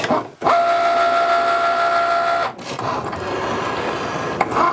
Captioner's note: printer whirring